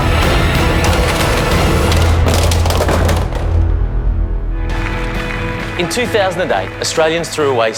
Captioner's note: applause